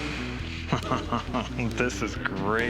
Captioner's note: laughs